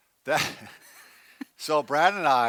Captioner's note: both laughs